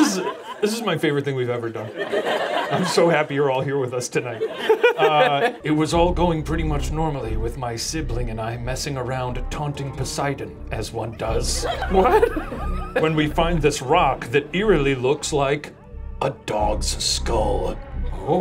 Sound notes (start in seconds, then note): 5.7 ominous music; 11.0 laughs